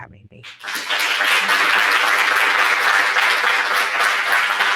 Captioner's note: applause